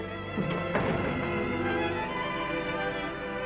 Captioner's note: door closes